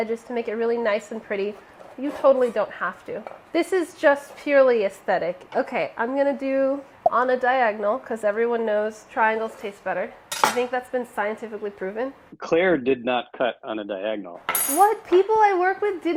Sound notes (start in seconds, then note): 6.9 plop